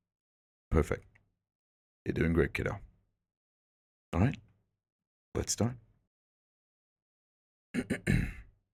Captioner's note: ahem